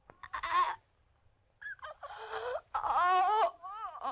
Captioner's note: Elfie groaning